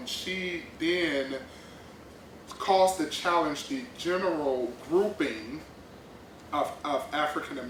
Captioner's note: none